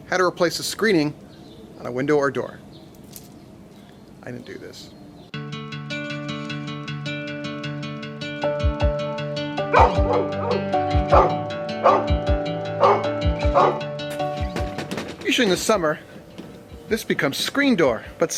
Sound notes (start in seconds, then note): 5.2 relaxing guitar music; 9.6 barking